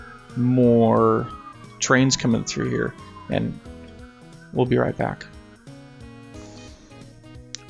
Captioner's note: sirens getting louder